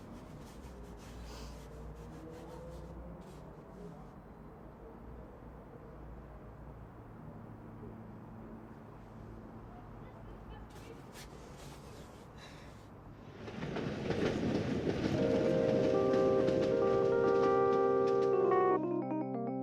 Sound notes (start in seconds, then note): 3.6 sobbing and scraping on the painting; 15.7 sound of train rattling along